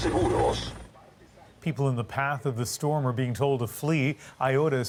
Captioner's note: speaking foreign language